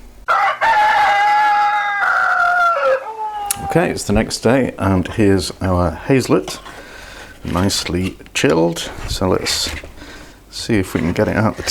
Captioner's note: cock crowing